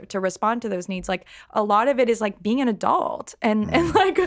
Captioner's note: laughs